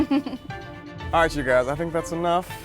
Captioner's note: giggling